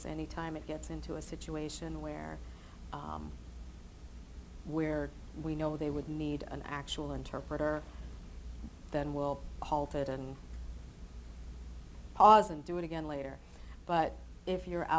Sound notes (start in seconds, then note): none